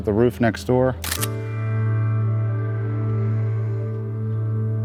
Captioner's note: camera snapping